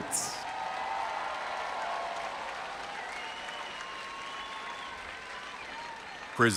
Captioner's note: audience applauding and cheering